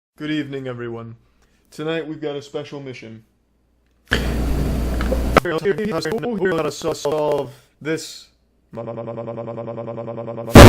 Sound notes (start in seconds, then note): 4.1 breath increased in volume